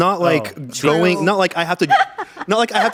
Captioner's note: laughs